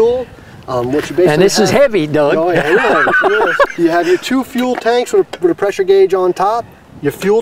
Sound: laughs

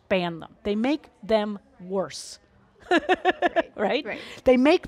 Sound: laughs

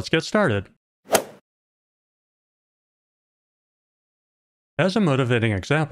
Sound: golf ball hit sound

